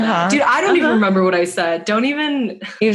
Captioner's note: laughs